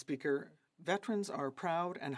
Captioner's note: speaking French